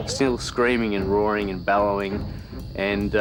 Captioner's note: radio chatting